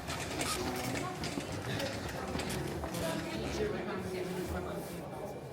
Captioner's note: people chattering faintly